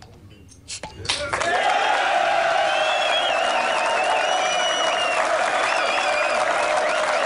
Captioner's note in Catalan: aplaudiments